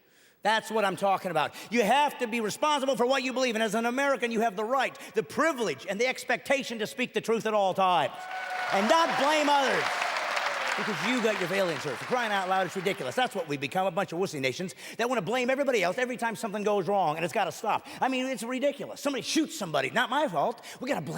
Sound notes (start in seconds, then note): 8.1 clapping and cheering